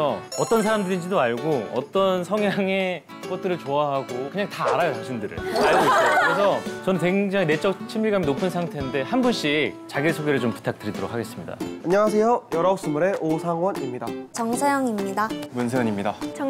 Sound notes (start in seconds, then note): 5.4 laughing